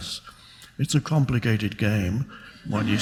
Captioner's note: audience laughs